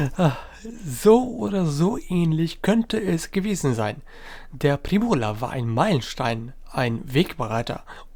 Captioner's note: laughter